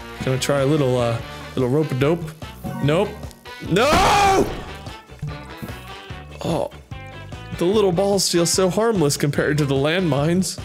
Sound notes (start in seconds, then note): none